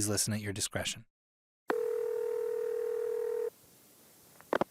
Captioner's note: phone ringing